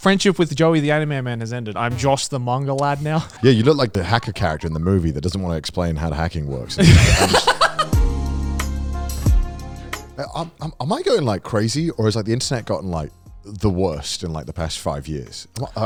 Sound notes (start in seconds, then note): 6.7 laughing; 6.8 mellow music